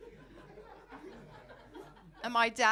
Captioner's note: audience giggling